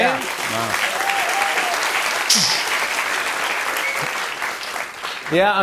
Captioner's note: cheers and applause